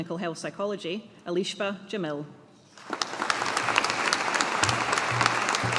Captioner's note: audience applauding